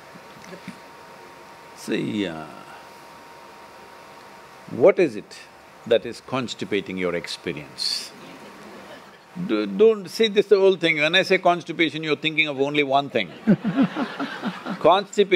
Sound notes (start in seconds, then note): 2.3 laughs; 8.3 few laugh; 13.3 laughter